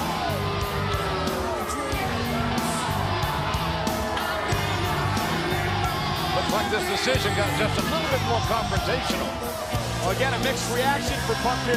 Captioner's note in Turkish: Alkış